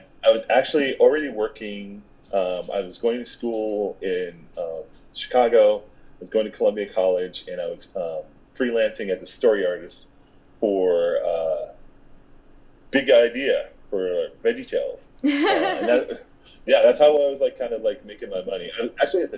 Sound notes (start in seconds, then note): 15.2 laughing